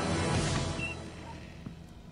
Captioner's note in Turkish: Kapı açılma sesi